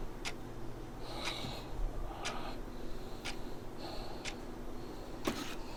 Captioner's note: sighs of annoyance and slight pain